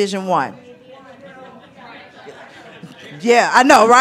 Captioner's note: audience chattering